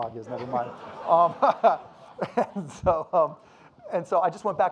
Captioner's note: audience laughing